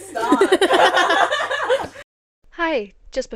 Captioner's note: laughter